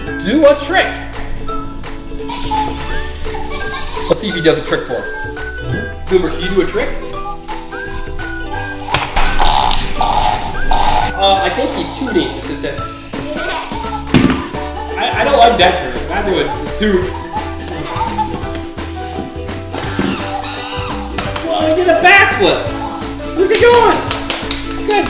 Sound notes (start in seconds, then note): 13.4 laughs